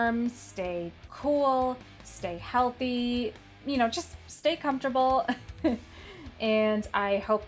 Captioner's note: chuckles